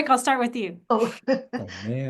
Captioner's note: chuckles